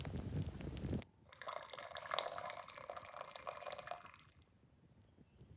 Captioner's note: fire crackling; drink pouring